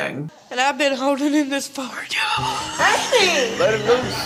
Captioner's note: laughs